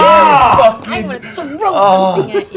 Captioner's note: shouting